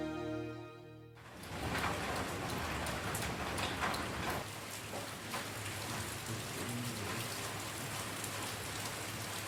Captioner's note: sound of rain